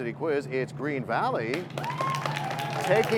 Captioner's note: cheers and applause